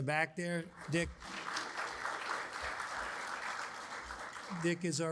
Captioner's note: audience applauds